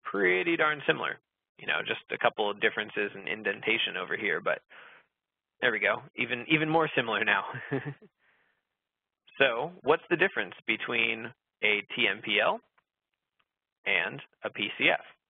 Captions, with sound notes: Pretty darn similar, you know, just a couple of differences in indentation over here, but, there we go, even more similar now. (laughs) So what's the difference between a TMPL and a PCF?